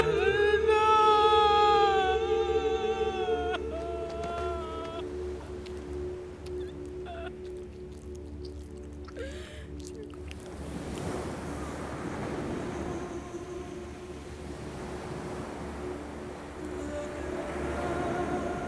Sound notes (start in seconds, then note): 11.9 ethereal music; 11.9 waves crashing